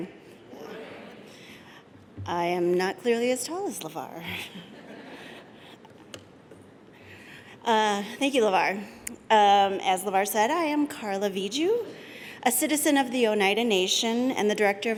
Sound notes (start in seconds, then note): 4.3 laughter